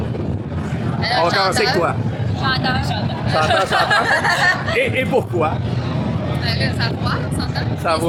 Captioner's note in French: rires